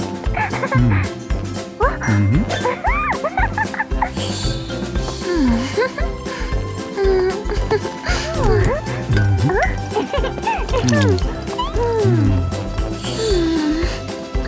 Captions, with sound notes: -[Cony chuckles] -Hmm. Mm-hmm. [giggles] Hmm. [chuckling] -Whew. Huh? -Mm-hmm. -[giggles] -Hmm. Mmm. [sighs]